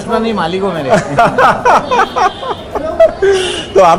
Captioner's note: everyone laughs